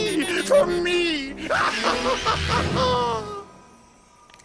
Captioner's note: laughter